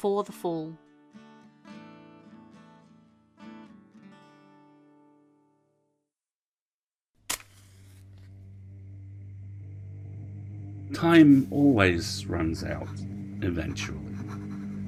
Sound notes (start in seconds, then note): 0.7 soft guitar music resolves; 7.3 match strikes, pen scratching